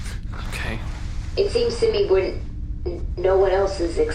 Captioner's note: quietly